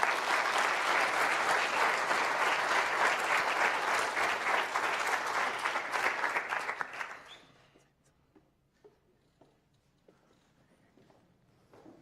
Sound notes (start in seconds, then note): 7.1 applause